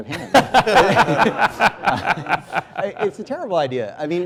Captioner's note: laughter